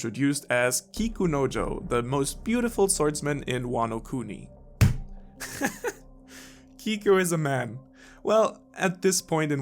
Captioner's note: slam